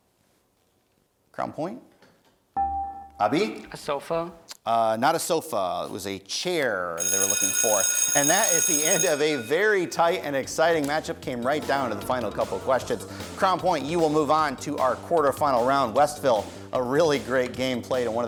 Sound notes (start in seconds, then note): 2.6 dinging